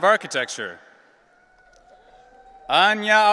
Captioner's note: audience cheering